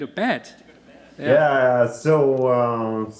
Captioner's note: laughter